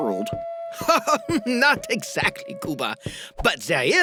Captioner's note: laughs